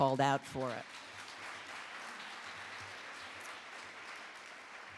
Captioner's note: audience applauding